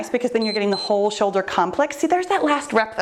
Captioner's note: timer beeps